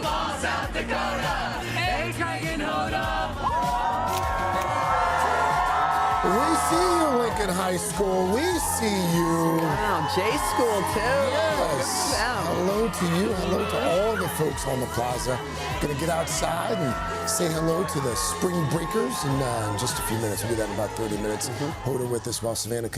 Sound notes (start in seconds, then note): 11.6 cheers